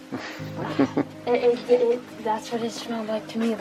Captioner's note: laughs